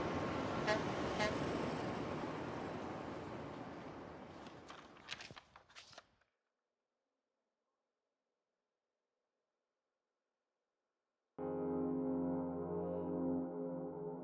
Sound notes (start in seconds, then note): 0.1 car horn honking; 4.3 pages rustling; 11.4 gentle music